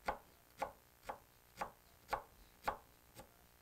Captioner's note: wood taps